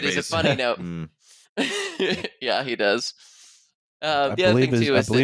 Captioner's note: laughs